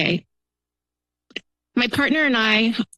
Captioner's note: pause